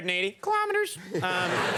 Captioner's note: speaks in a high voice; audience laughs